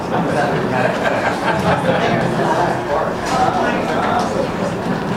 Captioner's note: laughter erupts